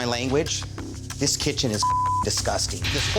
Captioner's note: beep